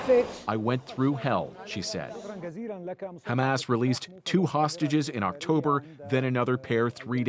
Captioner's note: speaking alternate language